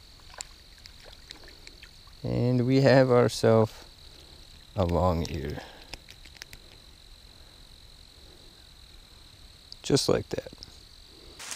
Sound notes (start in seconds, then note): 0.2 water splashing; 6.1 fish flopping around